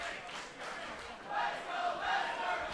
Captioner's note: fans chanting